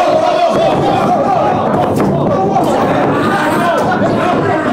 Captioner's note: shouting